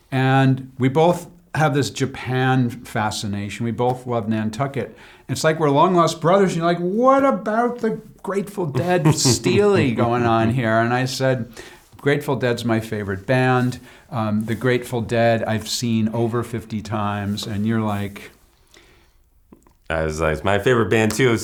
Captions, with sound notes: And we both have this Japan fascination. We both love Nantucket. And it's like we're long-lost brothers. And you're like, "What about the Grateful Dead-- [LAUGHS] --steely going on here?" And I said, "Grateful Dead's my favorite band. The Grateful Dead, I've seen over 50 times." And you're like-- I was like, "It's my favorite band, too.